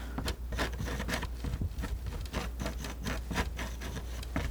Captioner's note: scratching